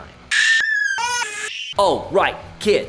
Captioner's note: kids screaming and crying